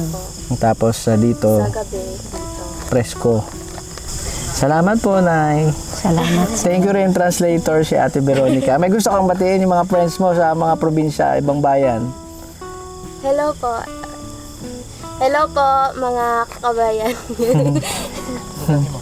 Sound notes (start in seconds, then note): 16.9 laughs